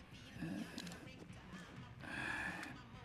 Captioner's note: sighs